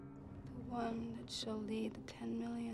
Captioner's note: none